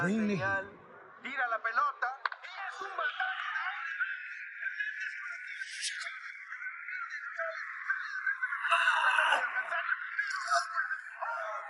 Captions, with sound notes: Bring the heat. (shouting in a foreign language) - Shit.